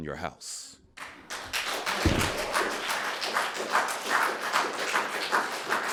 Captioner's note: audience applauding